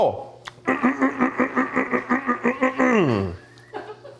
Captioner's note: clears throat; crew member chuckles